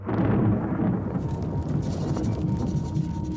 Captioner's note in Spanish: Truenos